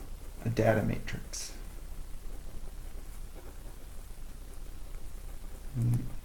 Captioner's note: writing Sounds